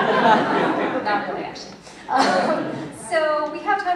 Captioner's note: laughter